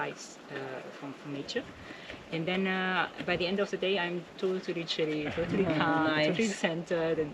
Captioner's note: all Laughing